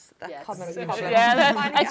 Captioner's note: laughs